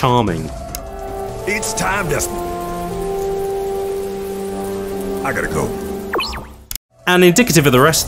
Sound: bloop

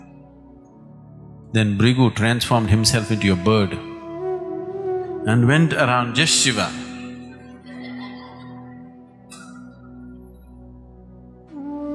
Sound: laughter

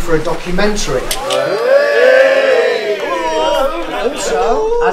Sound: cheering

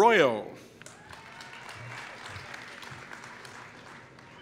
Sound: applause

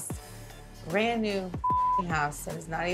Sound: beep

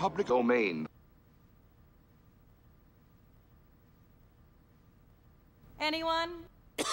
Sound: awkward silence

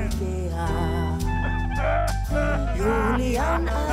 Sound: Herman shouts and laughs drunk

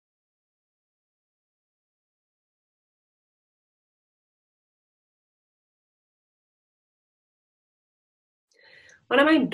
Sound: silence

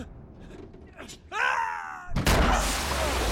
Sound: scream

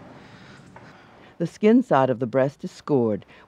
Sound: voiceover

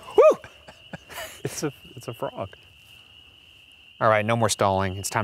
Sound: laughs

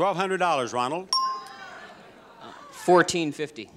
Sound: sound effect dings

